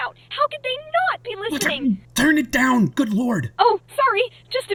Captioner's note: stutters